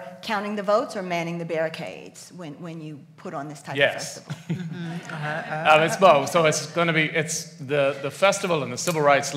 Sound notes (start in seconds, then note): 4.2 laughs